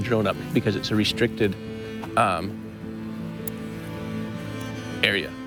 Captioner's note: tuts